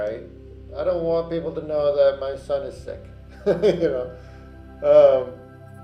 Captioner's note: laughs